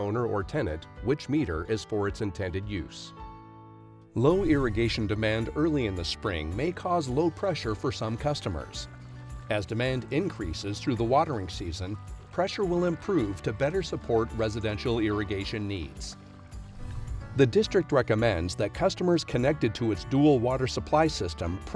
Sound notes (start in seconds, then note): 16.5 water trickling